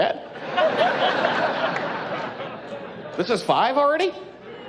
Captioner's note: laughing